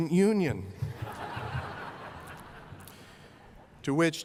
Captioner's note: laughter